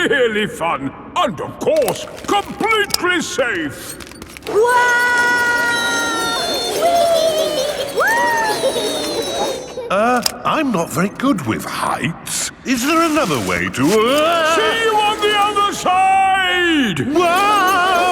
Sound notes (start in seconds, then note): 5.0 all yelling; 17.9 yelling